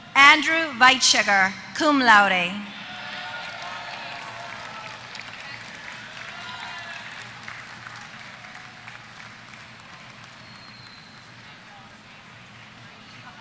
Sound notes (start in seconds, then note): 2.9 applause